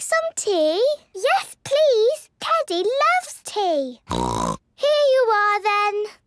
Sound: snort

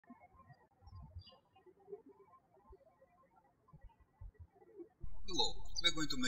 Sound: birds chirping

